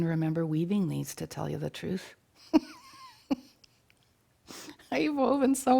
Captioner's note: laughing